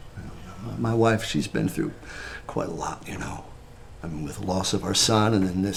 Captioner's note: none